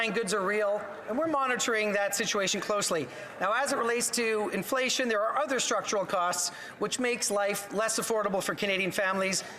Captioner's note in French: voix de l'interprète